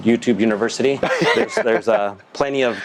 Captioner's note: laughs